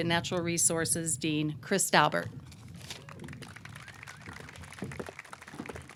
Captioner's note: audience clapping